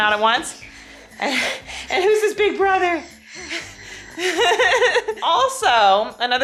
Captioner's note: laughs